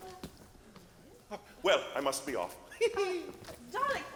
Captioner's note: laughs